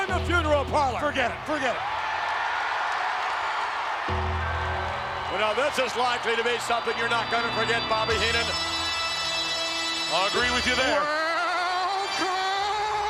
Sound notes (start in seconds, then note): 4.5 bell tolls